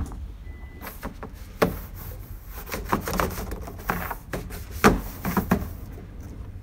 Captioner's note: noise, bangs of broom on barrel